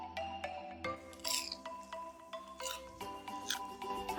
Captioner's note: crispy sound